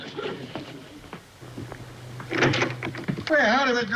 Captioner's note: door knocker clanging